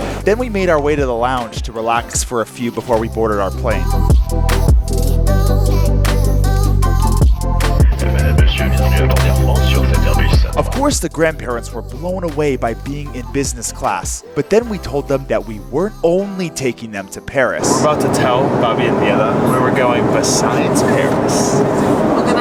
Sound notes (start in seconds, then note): 4.0 relaxed R&B music; 8.2 pilot speaking on intercom